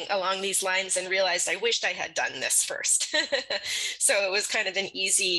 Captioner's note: laughs